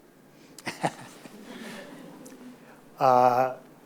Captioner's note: laughs